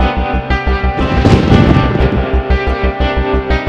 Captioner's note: Clouds thundering